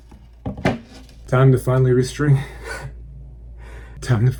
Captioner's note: chuckle